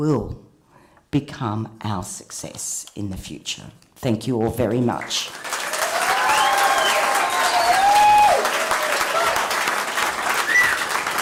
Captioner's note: cheering and applause